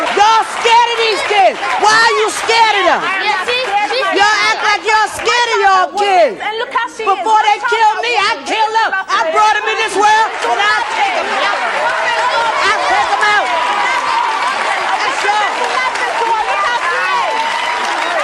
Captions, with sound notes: - Y'all scared of these kids! Why are you scared of them? - She's scared of me. - You act like y'all scared of your kids! Before they kill me, I'll kill them. I brought 'em in this world, and I'll take 'em out! (audience cheering) I'll take 'em out. (audience applauding)